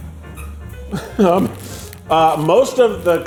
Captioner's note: pickle squeaking